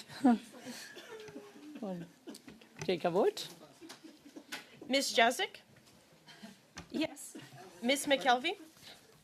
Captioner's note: laughter